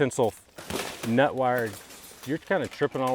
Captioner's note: metal clattering